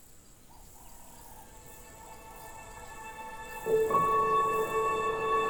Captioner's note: birds chirping; soft music